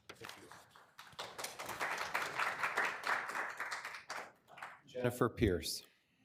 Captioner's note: attendees clapping